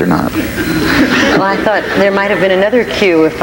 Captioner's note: audience laughs